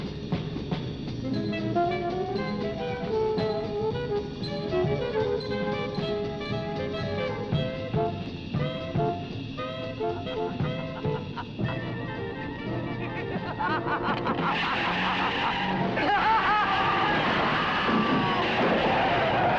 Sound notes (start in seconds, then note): 11.6 Elizabeth laughing; 14.5 brakes screeching